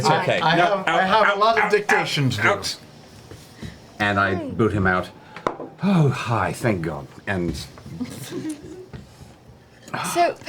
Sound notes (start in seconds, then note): 5.2 quietly